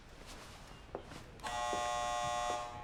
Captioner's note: buzzer buzzes